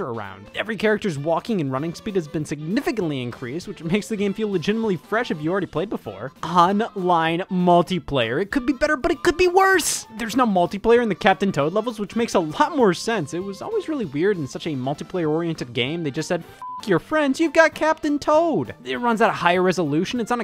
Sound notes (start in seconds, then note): 16.6 beep